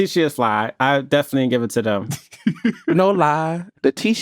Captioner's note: laughs